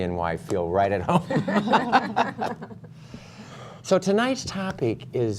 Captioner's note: laughter